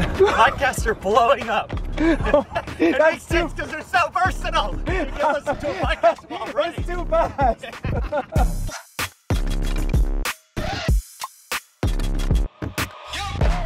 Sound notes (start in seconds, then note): 0.0 laughing; 1.8 laughing; 7.0 laughing; 9.4 bouncy music